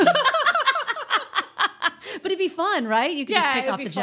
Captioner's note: laughing